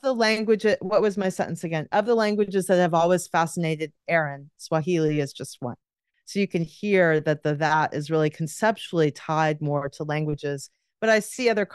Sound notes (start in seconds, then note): none